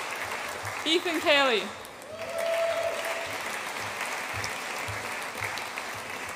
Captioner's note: audience applauds and cheers